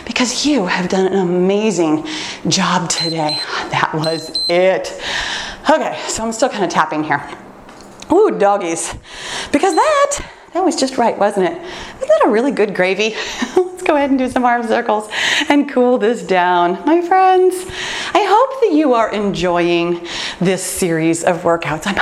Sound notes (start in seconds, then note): 4.0 timer beeps; 13.2 laughs